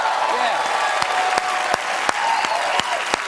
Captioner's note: cheers and applause